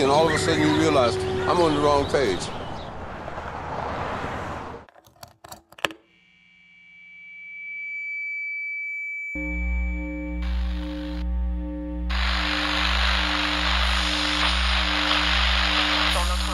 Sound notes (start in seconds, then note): 5.8 amp whirring; 11.7 static crackling